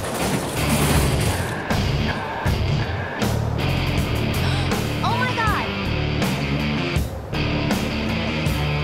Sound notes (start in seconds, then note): 1.5 yelling